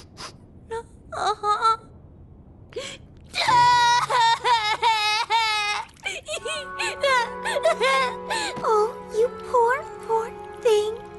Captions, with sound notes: Uh-huh. [bawling] Oh, you poor, poor thing!